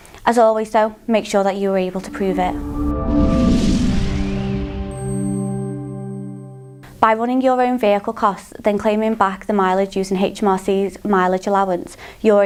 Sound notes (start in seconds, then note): 1.8 melodic sting; 1.9 bell dinging